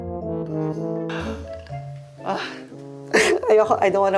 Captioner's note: funny music; inhales